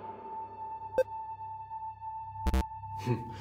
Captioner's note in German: Piepen